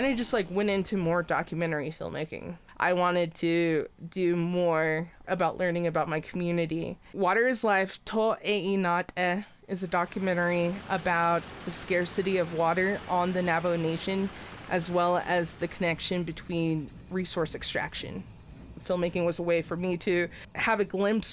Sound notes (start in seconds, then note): 7.8 speaks in foreign